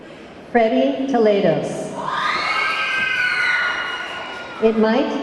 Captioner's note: audience clamoring